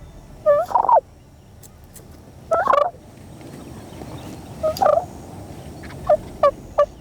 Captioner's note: hoppy purring; turkey gobbling